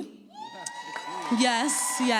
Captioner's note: audience cheers